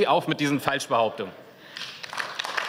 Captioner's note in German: Beifall